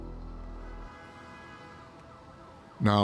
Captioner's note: car horn honks, siren blaring